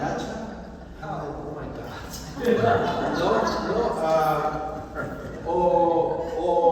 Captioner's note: laughter